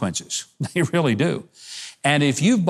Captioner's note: laughs